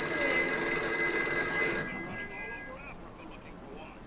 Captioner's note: phone ringing